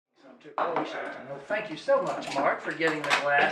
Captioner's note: glasses clink